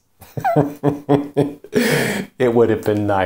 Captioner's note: laughing